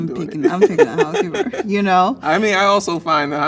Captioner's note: laughs